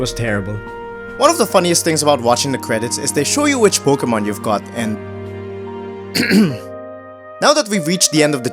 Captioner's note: cough